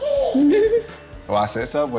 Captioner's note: laughter